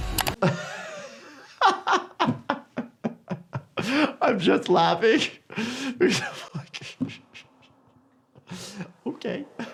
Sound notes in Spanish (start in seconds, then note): 0.4 el doctor se ríe